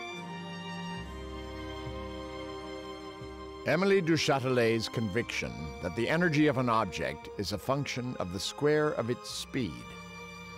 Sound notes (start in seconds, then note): none